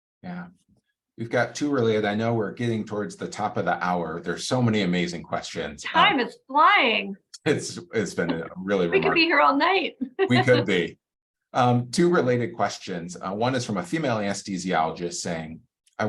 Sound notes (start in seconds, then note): 7.4 laughs